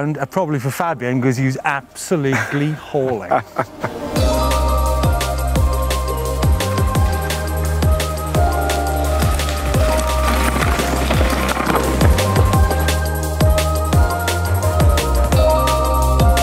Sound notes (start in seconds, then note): 3.0 laughter; 4.5 pumping electronic music